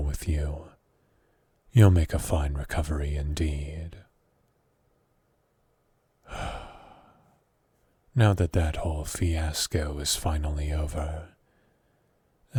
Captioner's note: sigh